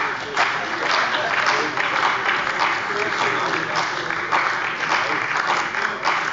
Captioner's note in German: Beifall bei der CDU und dem BÜNDNIS 90/DIE GRÜNEN